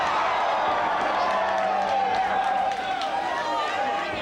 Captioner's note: crowd cheering